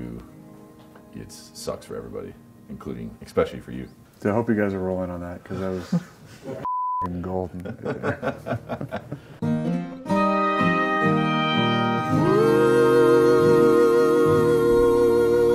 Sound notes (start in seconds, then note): 7.5 laughs; 7.8 folksy music